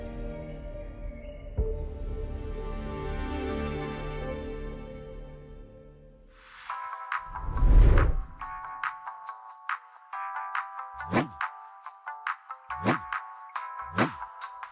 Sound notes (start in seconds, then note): 1.8 slow orchestral music continues; 6.9 upbeat music; 11.0 air whooshing